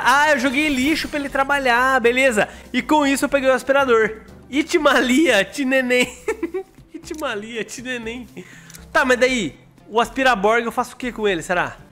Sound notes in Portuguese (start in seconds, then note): 6.0 risos